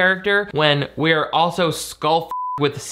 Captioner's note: beep